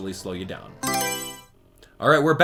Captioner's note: Mario Selection Sound